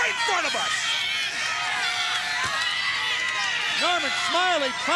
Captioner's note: crowd cheering